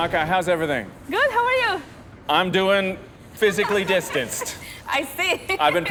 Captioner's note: laughing